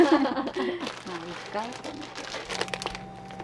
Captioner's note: laughter